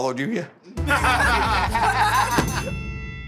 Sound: laughter

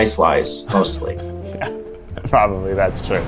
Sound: man laughs

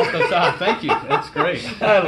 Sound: laughs

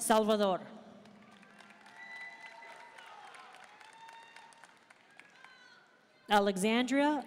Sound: audience cheering and applauding

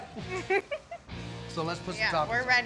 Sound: giggles

